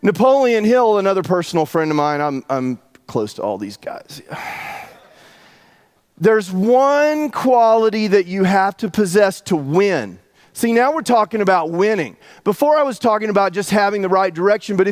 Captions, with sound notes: Napoleon Hill another personal friend of mine. I'm close to all these guys. (breathes heavily) There's one quality that you have to possess to win. See, now we're talking about winning. Before I was talking about just having the right direction.